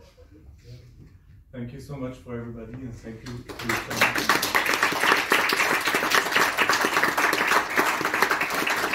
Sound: claps

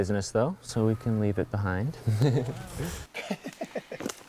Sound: chuckles

